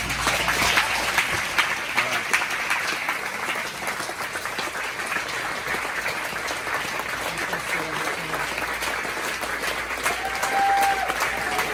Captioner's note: all Stand up, Clapping and cheering with respect